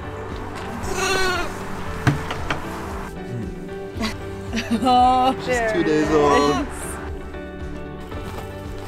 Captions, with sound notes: (goats bleat) - Aww there it is. - She's two days old.